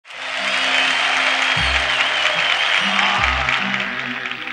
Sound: audience applauding

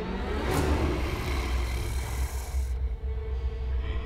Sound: growling; suspenseful music

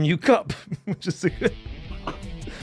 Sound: laughs

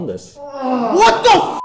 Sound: moaning; beep

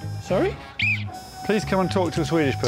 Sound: blows whistle

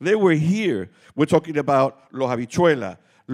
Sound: speaking Spanish

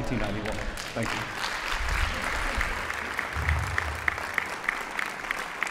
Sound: audience applauds

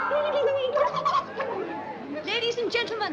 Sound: murmuring

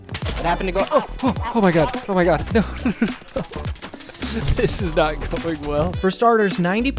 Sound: laughing

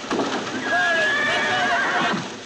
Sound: horses whinnying

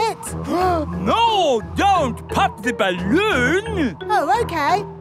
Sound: gasps

